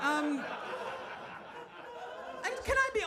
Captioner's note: audience laughs